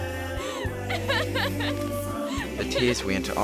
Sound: Antonia crying

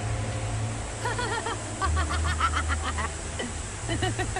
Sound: laughing woman

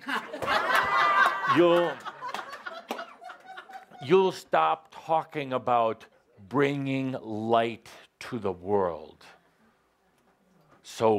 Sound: laughter

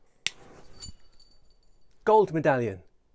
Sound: metal clinking

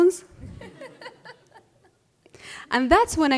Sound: laughter

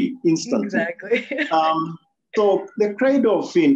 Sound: laughs

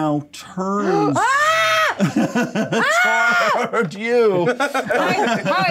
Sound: co-host yelling

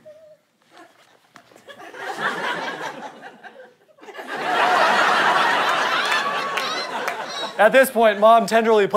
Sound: audience laughter

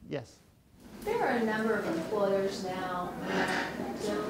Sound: voiceover

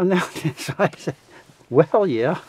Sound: both laughing

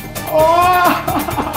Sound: shouting

